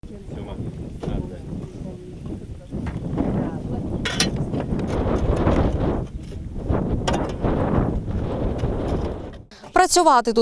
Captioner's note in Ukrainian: звуки вітру